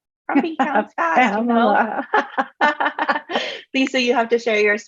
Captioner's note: laughing